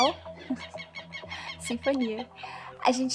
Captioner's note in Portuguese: som de pássaros cantando